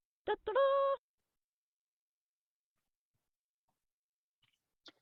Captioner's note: joyful sound effect